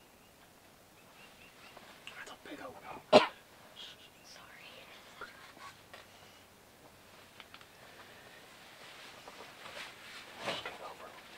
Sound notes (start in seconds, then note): 2.4 whispers; 8.8 whispers